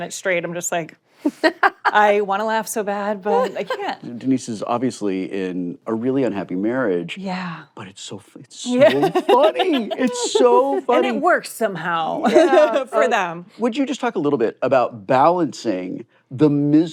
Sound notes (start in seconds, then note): 8.7 laughs